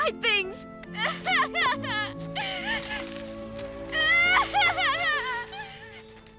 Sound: crying

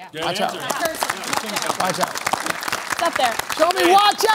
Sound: applause

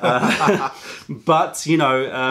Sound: laughter

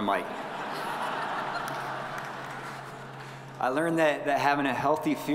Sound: audience laughing

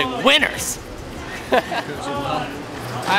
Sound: laughs

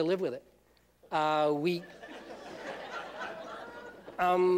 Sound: laughter

